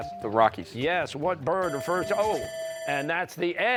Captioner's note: bell ringing